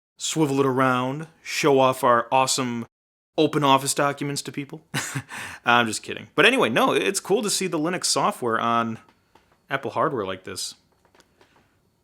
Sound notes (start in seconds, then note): 4.9 laughing